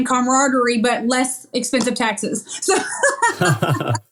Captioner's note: laugh